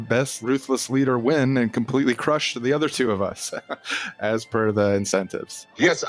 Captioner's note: laughs